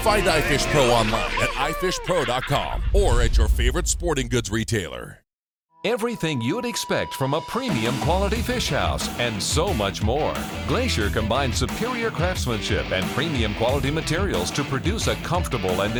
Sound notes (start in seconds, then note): 5.9 voiceover